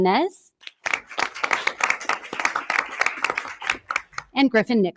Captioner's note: audience applause